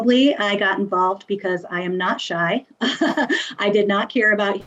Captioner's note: laughs